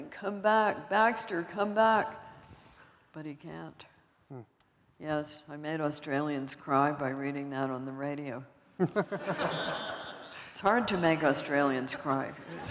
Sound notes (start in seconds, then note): 8.8 laughter; 12.4 laughter